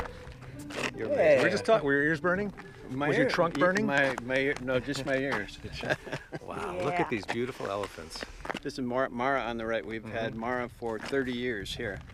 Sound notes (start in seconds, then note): 5.5 laughing